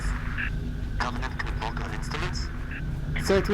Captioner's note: radio